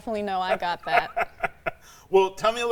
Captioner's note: laughing